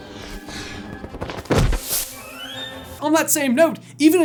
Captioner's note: thud